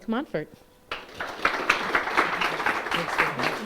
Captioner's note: applause